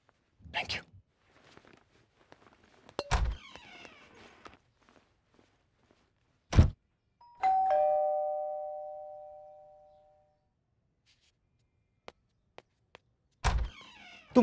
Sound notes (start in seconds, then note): 3.0 Door opens; 6.5 Door closes; 7.2 Doorbell ringing; 13.4 Door opens